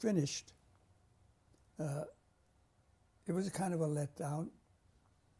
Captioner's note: pauses for 3 seconds